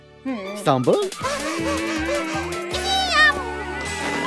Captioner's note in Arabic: صوت لهاث